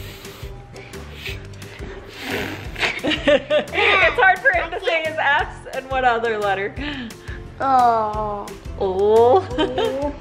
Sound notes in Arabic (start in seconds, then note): 2.6 يضحك